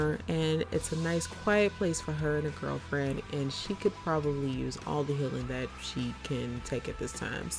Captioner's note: none